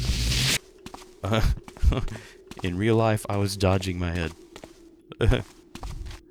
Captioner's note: laughs; laughs again